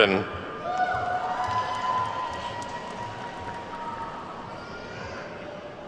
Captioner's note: attendees whooping and clapping